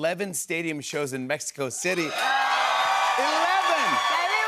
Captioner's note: cheers and applause